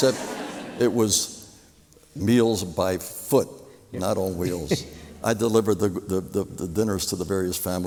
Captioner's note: laughter